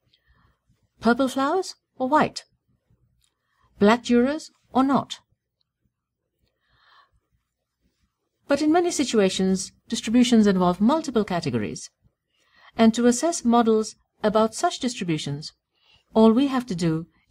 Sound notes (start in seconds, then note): 5.8 pause